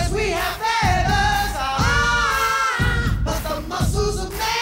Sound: group groaning

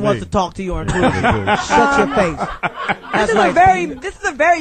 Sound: all laugh

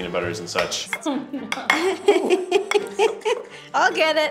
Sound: judges laughing

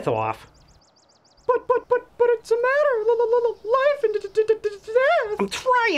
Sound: stuttering

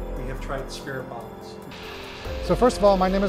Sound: static white noise from the spirit box

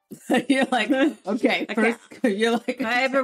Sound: laughs

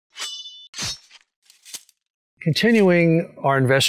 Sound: swords whistling

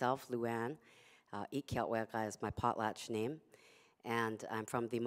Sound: non-english speech

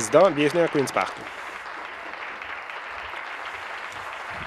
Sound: applause

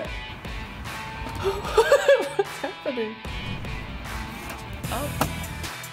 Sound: laughs

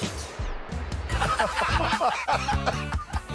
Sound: laughter

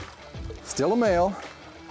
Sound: fish splashing

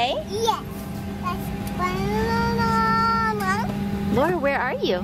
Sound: baby talk

